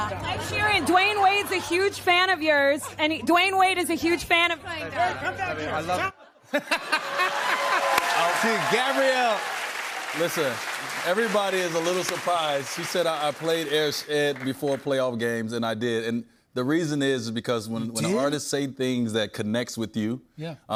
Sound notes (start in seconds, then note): 6.6 laughter, cheers, applause